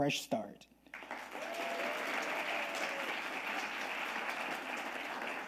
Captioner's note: audience applauding